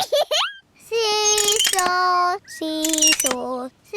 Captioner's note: giggles